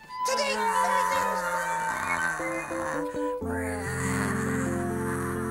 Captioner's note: imitating airplane